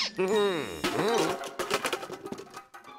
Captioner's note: clattering